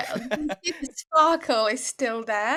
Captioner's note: laughing